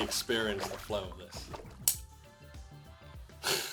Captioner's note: water sounds